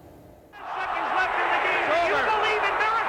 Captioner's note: voiceover; crowd roaring; voiceover